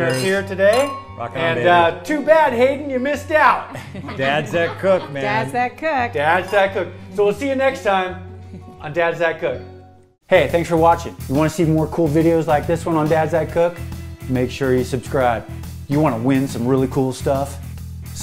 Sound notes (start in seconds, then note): 3.6 laughs